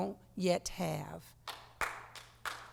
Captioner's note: applause